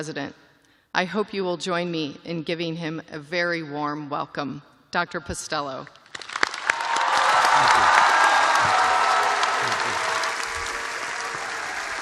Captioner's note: cheers and applause